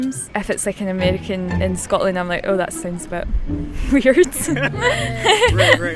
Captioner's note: laughs